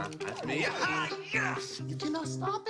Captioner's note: excited yelling